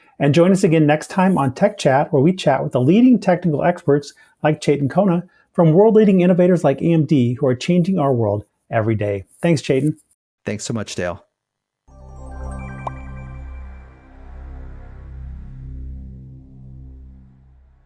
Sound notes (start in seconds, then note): 11.9 bright music; 12.6 logo pops